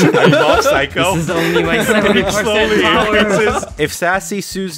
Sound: more talking drowned out by adorable laughter

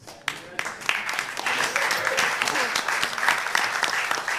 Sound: applause

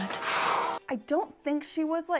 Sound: blows air

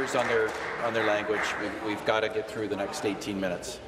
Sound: applause

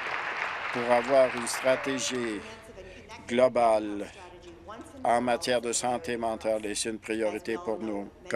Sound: applause

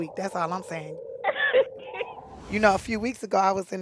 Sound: laughing

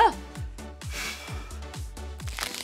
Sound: sighs; creaking

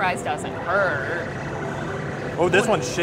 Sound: machine bleeps

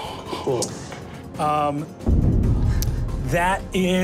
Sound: moans in shock

